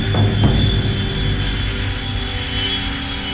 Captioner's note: insects chirring